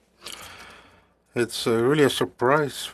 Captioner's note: speaking French